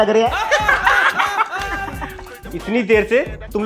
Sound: laughing

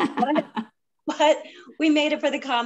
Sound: laugh

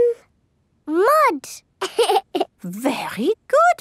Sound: laughs

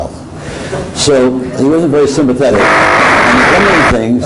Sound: microphone disruption

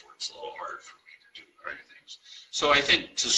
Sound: murmurs

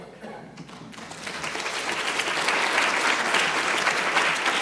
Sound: audience applauding

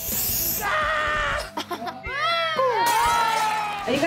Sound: screams; cheering

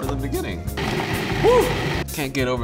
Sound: processor humming

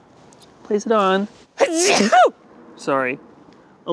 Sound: sneezes loudly

